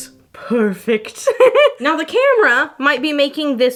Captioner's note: laughing